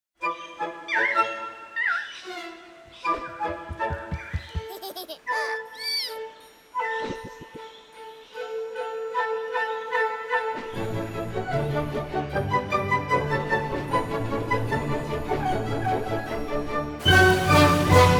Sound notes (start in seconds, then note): 0.2 cheerful string music; 3.0 footsteps pounding; 5.0 childish giggling